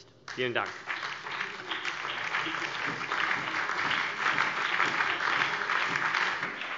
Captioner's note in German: Beifall BÜNDNIS 90/DIE GRÜNEN, vereinzelt CDU, SPD und DIE LINKE